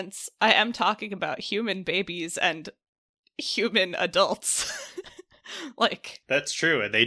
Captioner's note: laughs